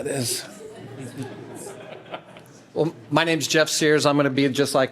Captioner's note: laughter